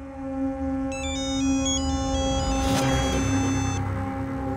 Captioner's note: phone ringing